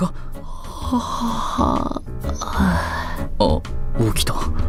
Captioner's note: yawn